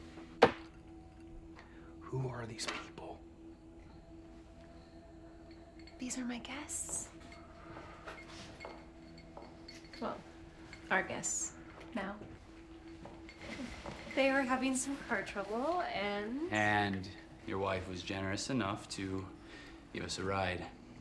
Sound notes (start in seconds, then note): 0.4 glass thuds; 3.6 crickets chirping; 3.6 tense music; 7.2 ice cubes clinking; 7.2 tense music